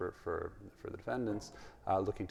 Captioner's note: none